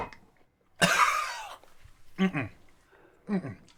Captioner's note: coughing